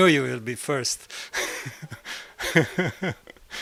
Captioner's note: laugh